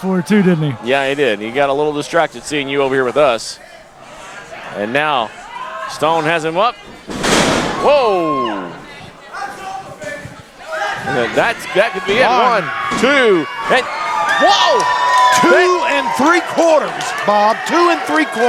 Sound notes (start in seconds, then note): 6.8 body slamming; 7.6 audience yelling